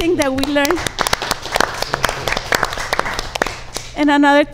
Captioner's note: audience applauds